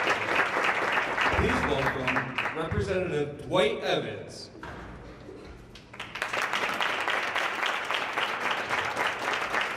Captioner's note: applause